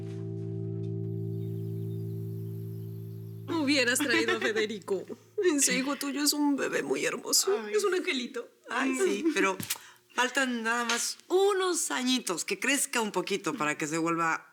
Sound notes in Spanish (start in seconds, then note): 3.6 Risas